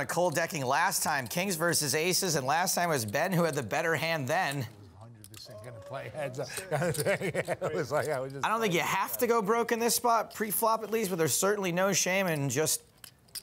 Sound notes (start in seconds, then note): 5.6 laughing